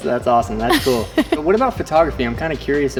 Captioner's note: laughs